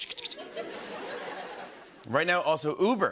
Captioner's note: imitates punch clicking; light laughter